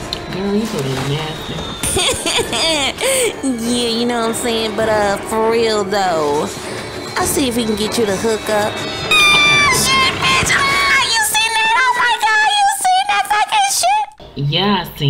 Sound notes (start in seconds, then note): 1.8 laughing; 9.0 scared-scream